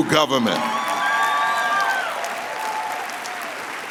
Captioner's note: applause